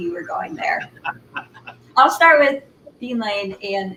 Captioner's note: laughter